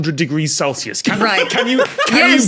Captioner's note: guffaws